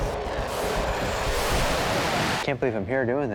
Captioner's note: jet engines roaring